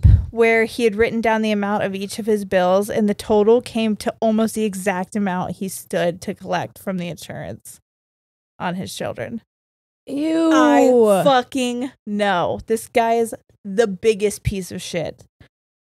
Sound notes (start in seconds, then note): none